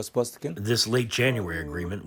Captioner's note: through translator